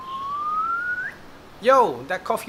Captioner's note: whistling